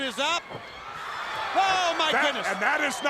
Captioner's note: crowd cheering